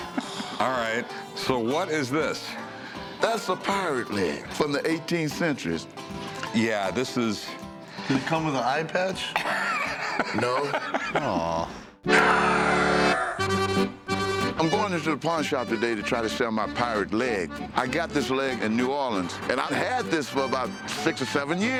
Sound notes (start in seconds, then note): 9.3 laughs; 12.6 accordion music